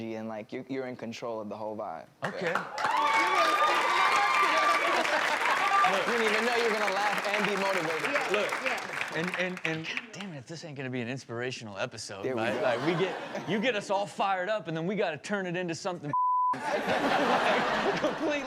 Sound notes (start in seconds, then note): 2.3 audience applauds; 16.1 beep; 16.5 audience laughs